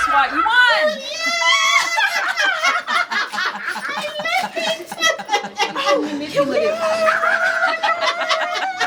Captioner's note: group cheering and laughing